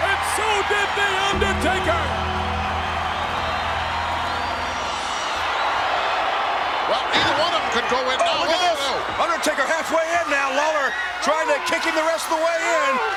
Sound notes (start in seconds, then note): 2.3 audience cheers